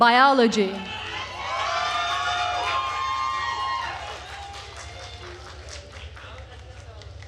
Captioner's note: attendees cheering and applauding